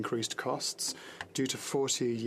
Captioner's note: speaking French